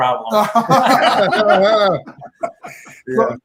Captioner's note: laughter